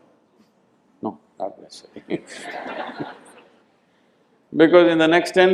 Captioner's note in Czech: smích